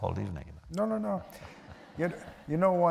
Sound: laughter

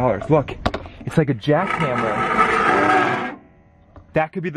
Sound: pipe scraping

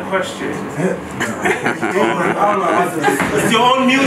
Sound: attendees chuckle

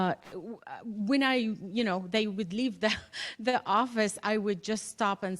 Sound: laughter

